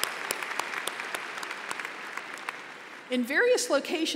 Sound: applause

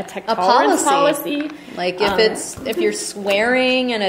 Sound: voiceover

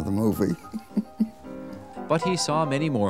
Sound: laughs

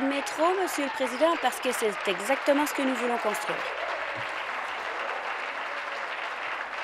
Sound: applause

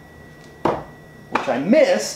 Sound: thuds

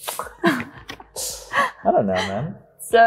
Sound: both laughing

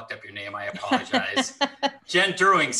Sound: laughs

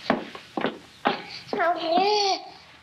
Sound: babbling

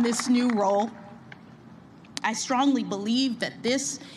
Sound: applause

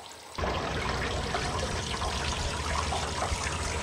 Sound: water splashes

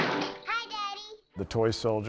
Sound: door slams

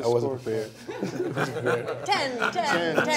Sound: laughter

